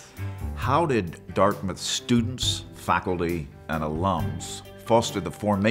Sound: voiceover

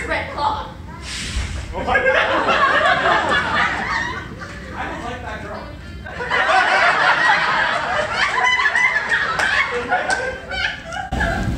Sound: hisses

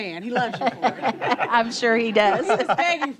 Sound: laughter

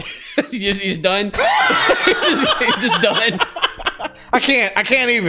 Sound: laughter

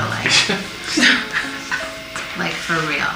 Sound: laughs

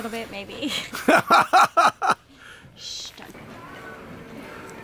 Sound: laughing

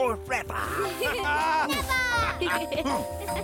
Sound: laughing

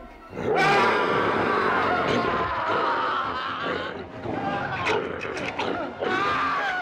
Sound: Donald growls; Donald growling; doctor screaming

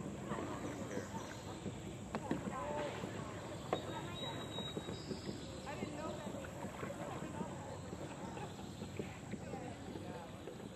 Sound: birds chirping

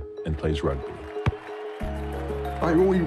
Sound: cheering loudly

